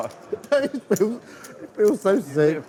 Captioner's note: laughing